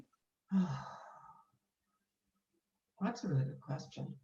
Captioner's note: exhales